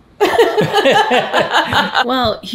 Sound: everyone laughs

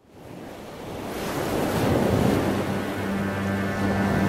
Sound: ocean Sounds

